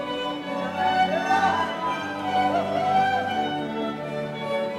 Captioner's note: audience cheers